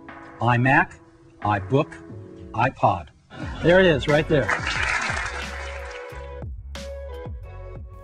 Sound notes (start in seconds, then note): 4.1 audience clapping